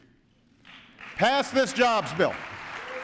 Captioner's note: applause